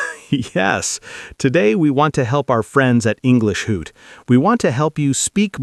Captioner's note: laughs